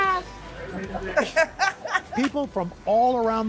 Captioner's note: laughter